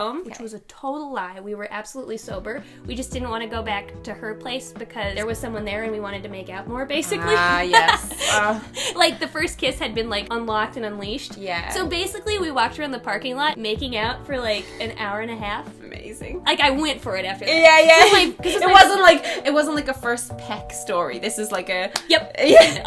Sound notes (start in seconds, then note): 7.1 laughing